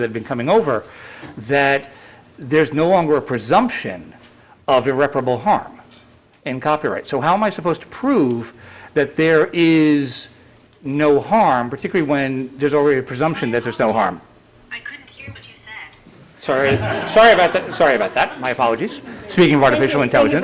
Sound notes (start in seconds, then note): 16.6 laughter